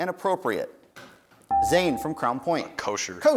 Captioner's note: dinging